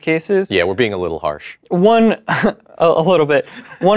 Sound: laughs

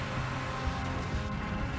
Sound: engine revving

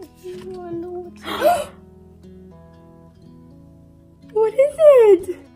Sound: loud gasps

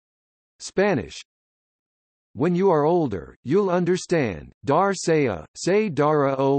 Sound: Spanish

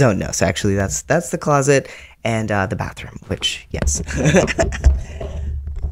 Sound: laughter

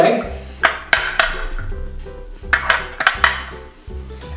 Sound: cracking egg open

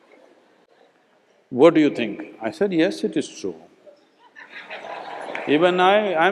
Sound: laughter

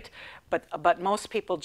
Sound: none

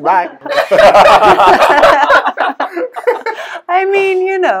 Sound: laughters

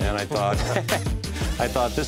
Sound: laugh

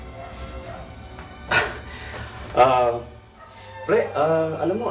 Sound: chuckles

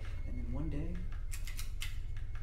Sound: light bulb chain clicks twice

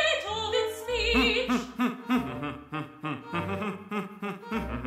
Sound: humming melodically

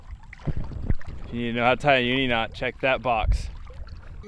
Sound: speaks foreign language

